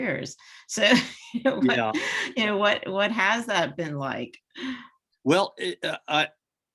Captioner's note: laughs